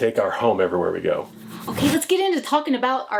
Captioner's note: logo whooshing